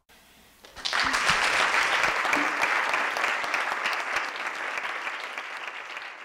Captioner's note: claps